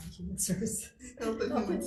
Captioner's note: laughs